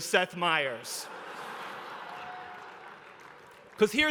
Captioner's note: laughter